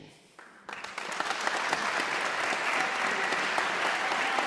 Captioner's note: audience applauds